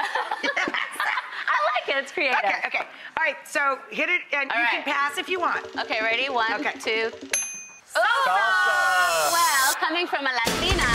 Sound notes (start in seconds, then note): 7.1 bell rings